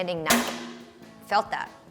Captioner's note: grill clanks